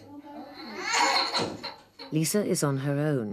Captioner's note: child crying